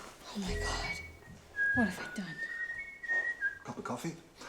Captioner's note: daniel whistling